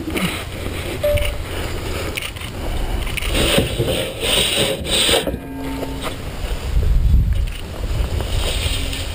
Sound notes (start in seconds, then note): 3.2 metal scraping against wood